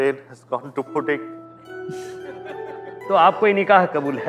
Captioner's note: Chuckles